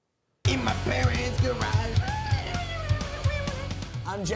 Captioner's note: voiceover